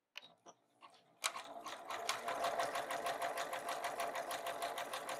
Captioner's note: sewing machine humming